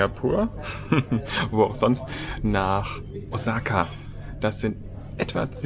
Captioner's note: laugh